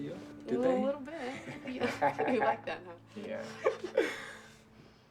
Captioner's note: laughing